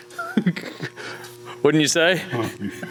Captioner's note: Destin laughs